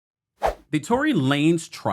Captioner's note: whoosh